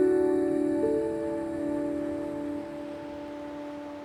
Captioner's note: rushing waves